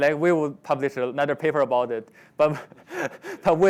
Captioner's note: laughs